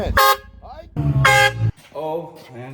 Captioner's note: air horn blaring